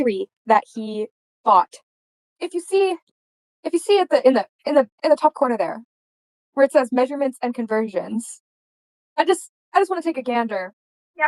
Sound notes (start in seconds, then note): 2.5 stuttering